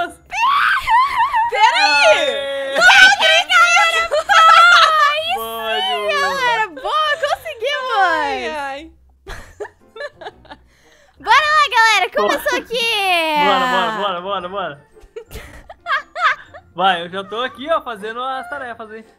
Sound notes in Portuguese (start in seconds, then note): 9.2 rindo; 15.0 Risadas